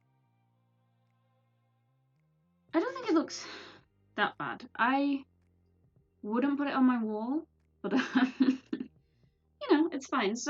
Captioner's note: laughs